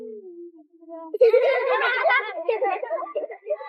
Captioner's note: laughs